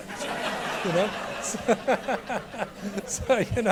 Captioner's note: audience laughing